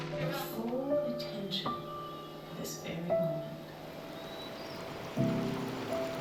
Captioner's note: voice on speaker